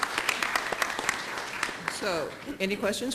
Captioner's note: applause